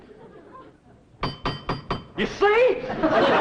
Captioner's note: door knocker clinks